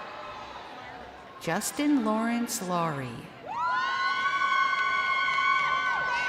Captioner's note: crowd cheering